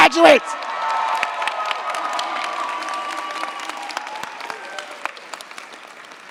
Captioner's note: cheers, applause